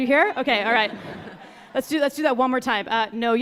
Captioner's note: audience laughing